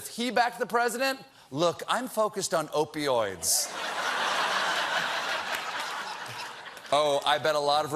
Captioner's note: laughter